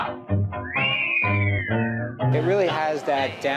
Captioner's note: upbeat music; vocalists whistling